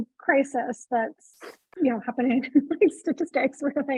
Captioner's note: chuckling; laughs